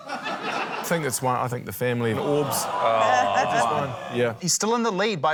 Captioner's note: laughter; audience groans